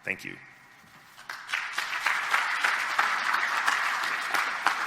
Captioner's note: clapping